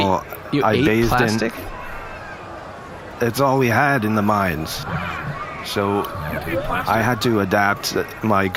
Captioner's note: laughing